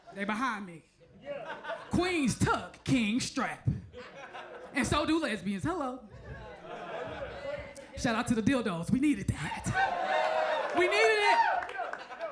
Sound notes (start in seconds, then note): 3.9 crowd chuckles; 6.1 crowd chuckles; 6.1 crowd murmurs; 9.4 crowd cheers